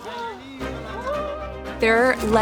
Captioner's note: screaming